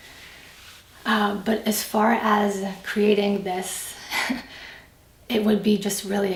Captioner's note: laughs